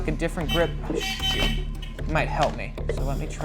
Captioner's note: hooter buzzing